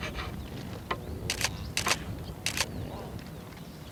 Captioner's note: camera clicks